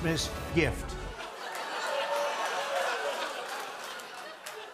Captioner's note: laughter, cheering, and applause